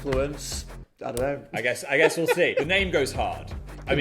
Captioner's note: laughs